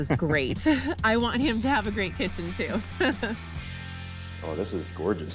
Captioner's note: chuckles